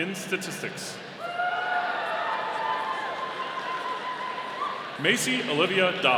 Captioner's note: audience cheering